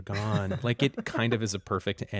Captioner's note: laughter